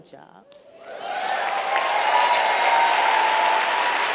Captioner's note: applause